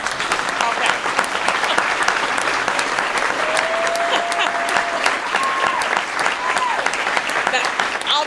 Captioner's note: applause and Cheering